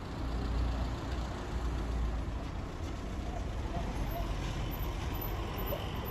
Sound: noise of cars

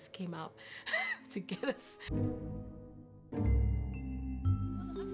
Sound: laughs

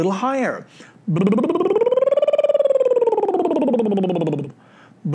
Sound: trilling

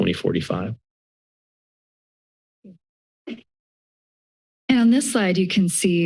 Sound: silence

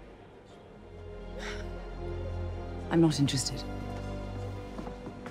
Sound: sighing

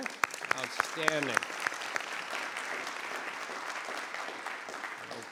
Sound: applause

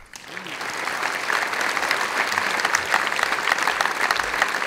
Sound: audience applauds

